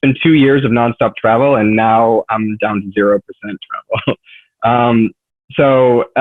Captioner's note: chuckles